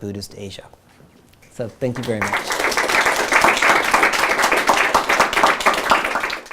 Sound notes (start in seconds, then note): 1.9 audience applauding